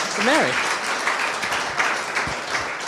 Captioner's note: audience clapping